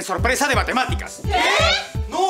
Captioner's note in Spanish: Gritos